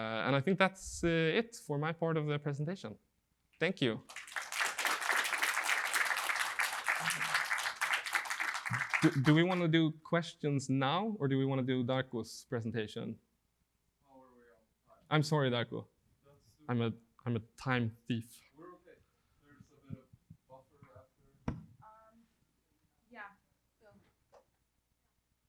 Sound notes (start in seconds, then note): 4.0 audience applauding